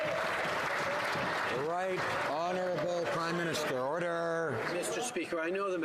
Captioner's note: some Applause